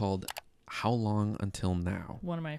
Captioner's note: computer mouse clicking